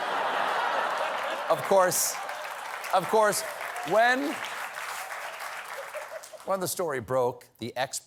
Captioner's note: laughter